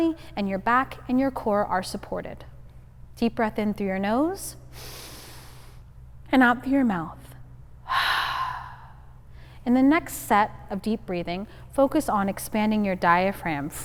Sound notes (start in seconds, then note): 4.8 inhaling; 7.8 exhaling